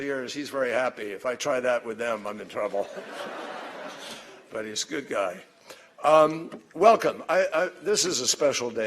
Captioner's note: laughter